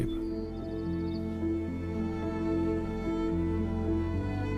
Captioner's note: birds chirping